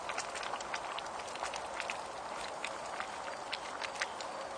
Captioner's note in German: kochende Blubbergeräusche